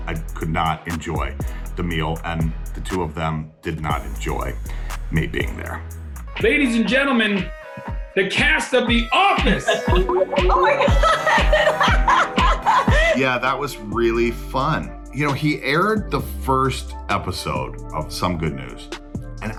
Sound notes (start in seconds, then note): 10.2 upbeat instrumental music; 12.6 laughing